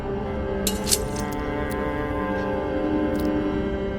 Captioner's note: blood drips